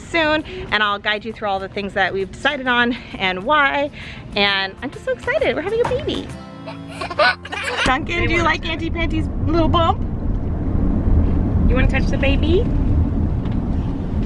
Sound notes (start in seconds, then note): 6.6 laughing